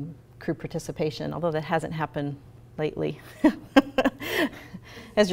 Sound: laughs

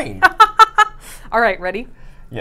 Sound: laughs

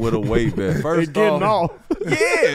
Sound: laughs

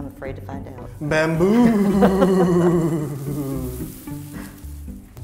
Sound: chuckles

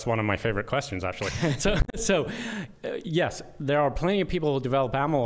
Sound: laughter

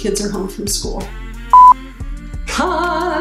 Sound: beep

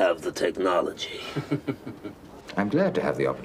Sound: laughs

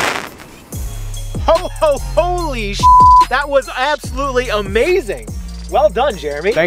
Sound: fireworks exploding; beep

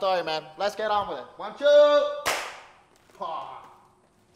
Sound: clap

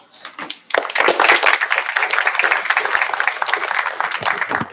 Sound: applause

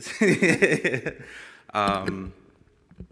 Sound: laughs

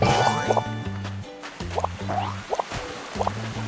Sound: steps

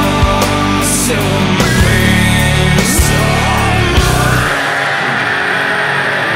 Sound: screams

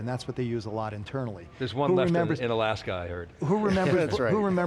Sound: laughs

